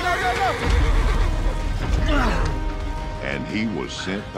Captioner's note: groaning